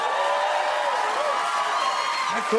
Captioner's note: cheers and applause